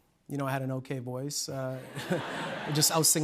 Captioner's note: laughter